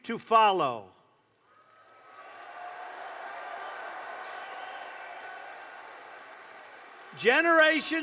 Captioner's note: applause